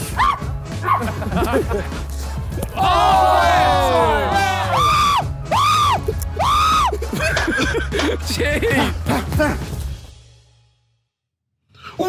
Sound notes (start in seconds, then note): 0.3 screams; 4.8 screams loudly; 7.5 group laughs; 9.1 grunts